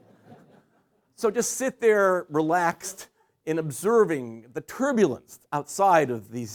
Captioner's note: laughter